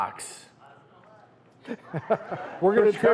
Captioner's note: people mumbling; chuckling; laughs